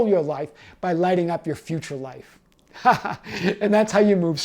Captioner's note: laughs